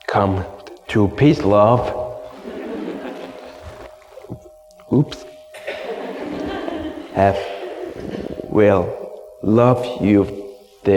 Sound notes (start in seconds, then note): 2.4 audience laughs softly